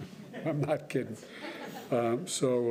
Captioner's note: laughter